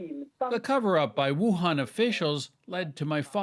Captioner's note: speaking Foreign Language